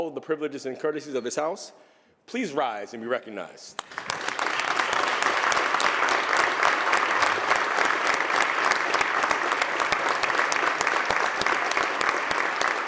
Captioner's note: applause